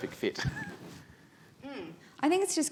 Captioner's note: chuckles